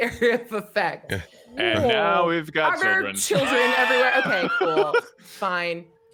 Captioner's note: laughs